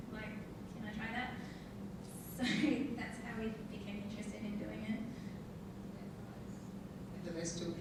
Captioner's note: laughing